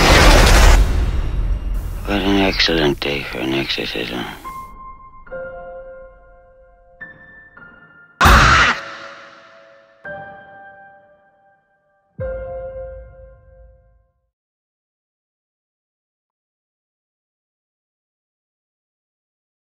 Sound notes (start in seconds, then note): 0.0 dramatic music; 8.2 Regan screams